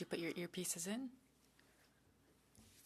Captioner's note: speaking French